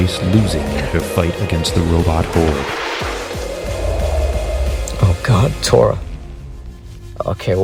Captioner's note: whispers